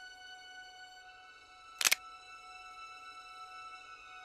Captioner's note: gun cocking